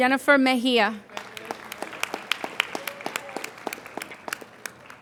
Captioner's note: applauding